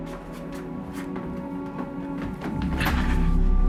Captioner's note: footsteps approaching